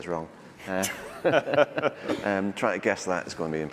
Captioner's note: laughter